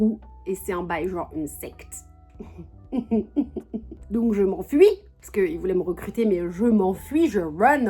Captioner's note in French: rires